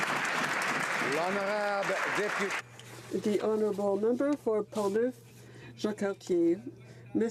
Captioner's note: some Applause